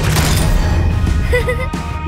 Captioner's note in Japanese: 笑い声